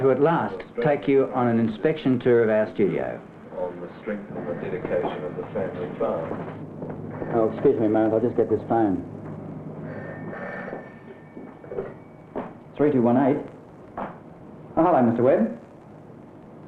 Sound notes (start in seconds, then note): 4.7 footsteps; 9.8 phone ringing